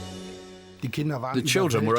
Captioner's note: speaking German